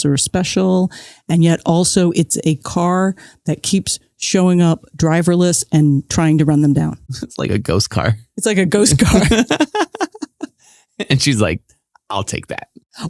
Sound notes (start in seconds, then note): 9.0 laughs